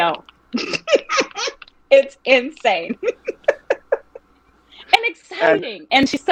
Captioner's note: laughing